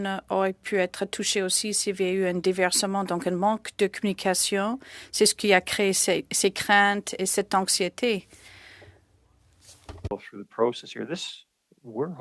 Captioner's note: speaking French